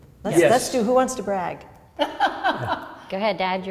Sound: woman laughs

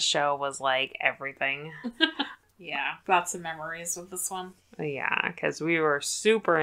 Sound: laughs

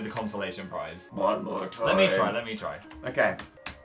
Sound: low voice

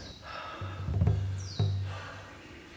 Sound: heavy breathing

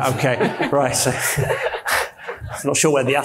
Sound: panelist and audience laughs

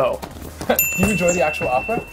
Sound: bell rings

